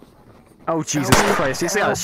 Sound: gunshot

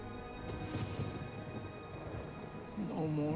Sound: thunder rumbling

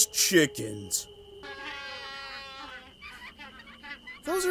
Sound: Penguin Noises

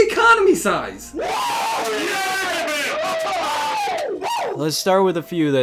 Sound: men cheer

